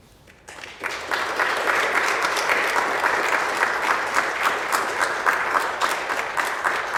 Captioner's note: applause